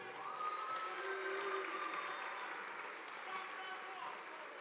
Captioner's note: audience applauding